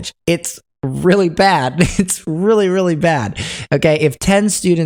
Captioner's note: chuckles